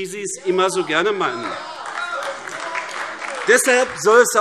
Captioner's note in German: Beifall AfD - Demonstrativer Beifall DIE LINKE